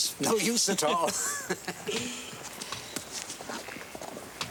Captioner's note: both laughing